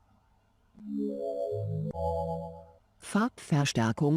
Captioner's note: Zoomy speaking in German